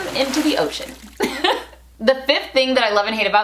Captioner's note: laughs